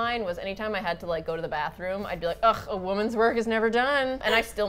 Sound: snobbishly; laughs

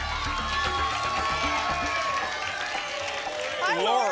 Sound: applause and cheering cont

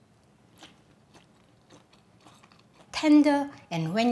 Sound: Maangchi chewing

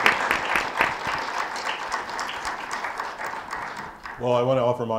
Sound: audience applauding

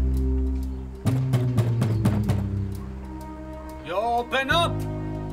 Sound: door banging

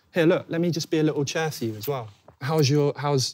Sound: none

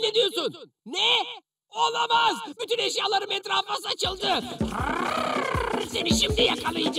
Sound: angry sound

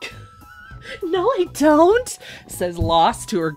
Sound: laughs; mocking

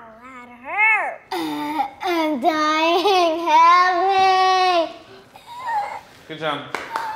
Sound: imitates choking

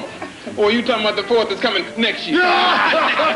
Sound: howling laughter

